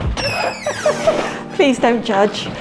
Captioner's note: laughter